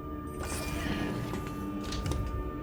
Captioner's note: door slides, closes